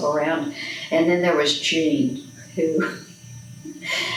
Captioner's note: laughs